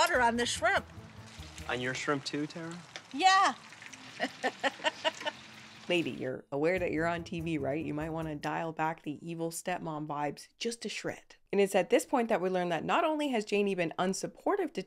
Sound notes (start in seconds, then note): 4.2 laughs